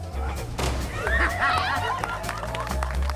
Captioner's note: loud splash and laughter; applause